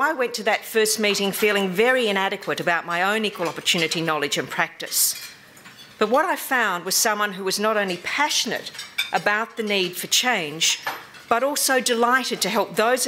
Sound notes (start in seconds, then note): none